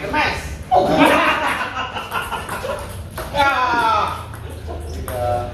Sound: laughs

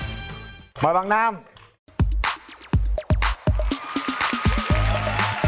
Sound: applause

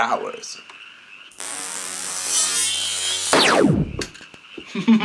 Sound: eyes buzzing

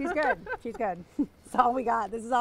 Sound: laughing

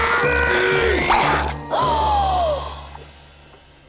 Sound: gasping

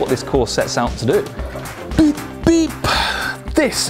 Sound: sighs

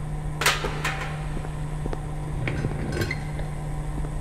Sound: fan blowing air

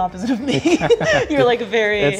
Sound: laughing

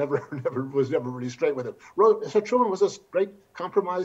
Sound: chuckles

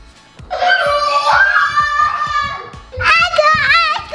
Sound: screaming

